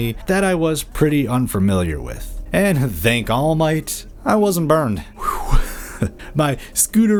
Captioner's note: sigh of relief